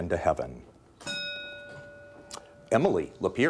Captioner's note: bell dinging